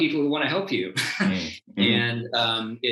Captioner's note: chuckles